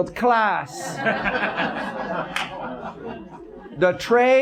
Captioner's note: audience laughs